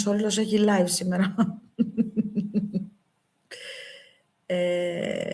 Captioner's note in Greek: γέλια